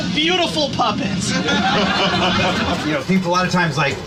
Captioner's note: group laughing